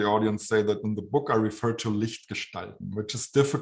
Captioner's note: german